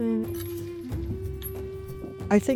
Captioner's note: chain rattles